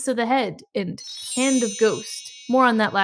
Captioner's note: sparkle noise